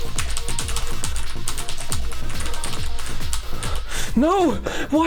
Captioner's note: heavy breathing